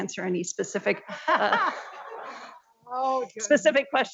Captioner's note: board members laughing